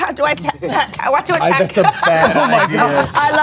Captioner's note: laughing